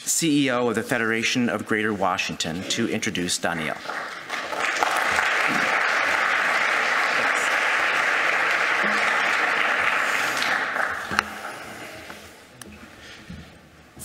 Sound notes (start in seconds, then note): 6.0 applause